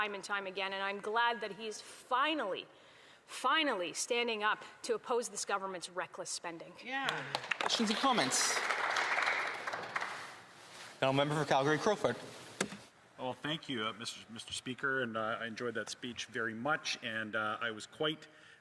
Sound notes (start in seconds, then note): 10.7 applause